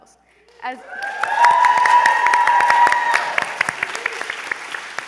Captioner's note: applause, cheering